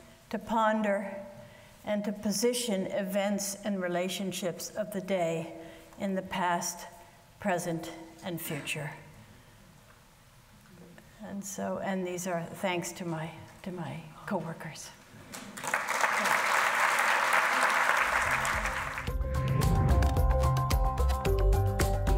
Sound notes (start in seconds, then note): 15.4 audience applauding; 18.4 pleasant music